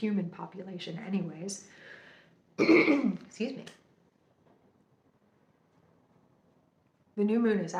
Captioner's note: clears throat